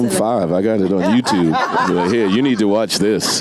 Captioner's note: audience and panelists laughs